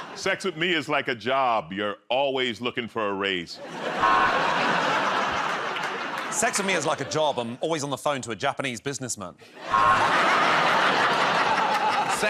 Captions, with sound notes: -Sex with me is like a job, you're always looking for a raise. [ Laughter ] -Sex with me is like a job. I'm always on the phone to a Japanese businessman. [ Laughter ]